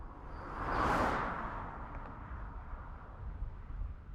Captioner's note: car passing